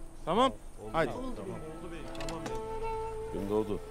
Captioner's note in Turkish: Hep bir ağızdan